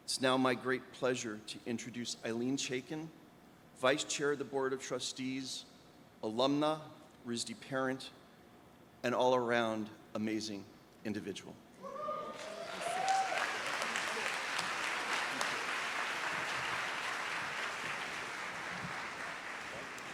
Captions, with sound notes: It's now my great pleasure to introduce Ilene Chaiken, vice chair of the Board of Trustees, alumna, RISD parent, an all-around amazing individual. (audience applauds)